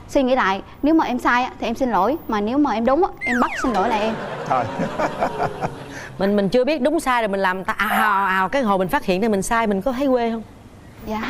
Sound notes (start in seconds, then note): 3.7 laughs; 3.7 audience laugh